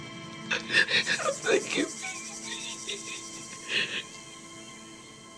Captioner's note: sobs